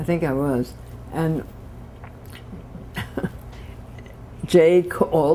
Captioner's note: laughter